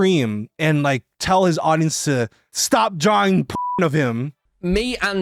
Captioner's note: beeps